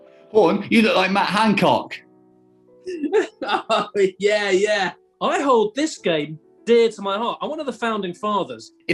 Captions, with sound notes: Horne, you look like Matt Hancock! [LAUGHING] Oh, yeah, yeah! I hold this game dear to my heart – I'm one of the founding fathers.